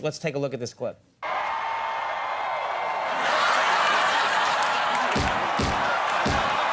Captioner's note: crowd cheering